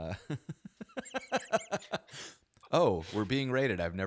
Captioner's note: chuckles